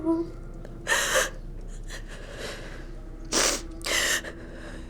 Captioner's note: Kira sobbing